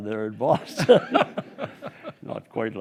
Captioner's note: group laughing